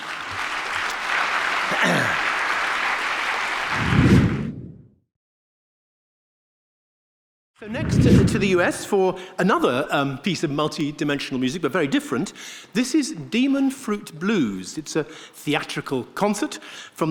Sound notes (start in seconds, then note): 0.0 audience clapping; 4.0 air swooshing